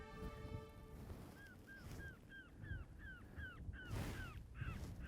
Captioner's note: coyote call